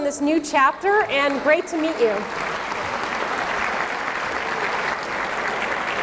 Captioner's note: audience clapping